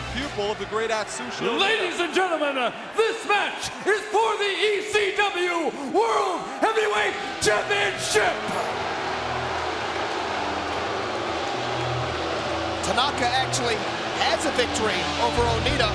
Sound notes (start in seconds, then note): 8.6 crowd booing